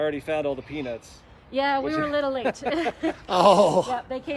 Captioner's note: all Laughing